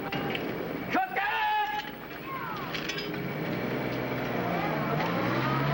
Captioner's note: yelling in foreign language